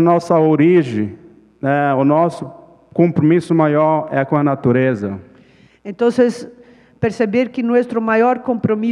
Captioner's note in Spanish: Ponente habla en portugués